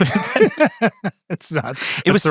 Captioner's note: people laughing